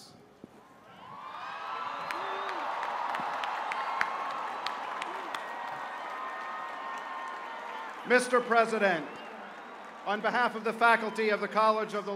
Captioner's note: cheers and applause